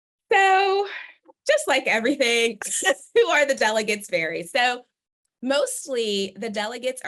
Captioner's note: laughter